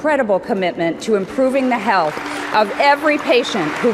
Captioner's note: audience applauds